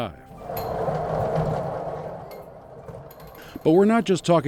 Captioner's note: mechanism whirring